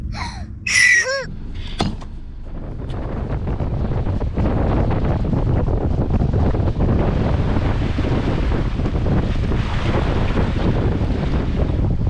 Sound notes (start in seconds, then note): 0.7 whistle blowing; 3.8 wind blowing; 9.2 waves crashing